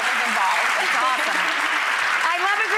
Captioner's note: audience claps